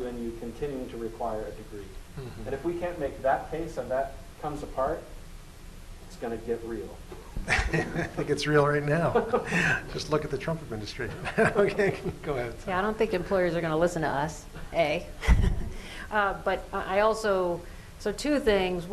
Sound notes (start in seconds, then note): 9.0 laughter